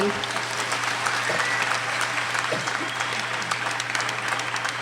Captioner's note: applauding